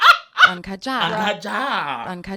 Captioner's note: actor speaking in foreign language; speaking in foreign language; actor speaking in foreign language